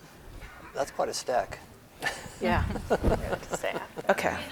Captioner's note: laughs